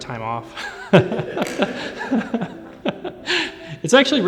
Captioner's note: laughing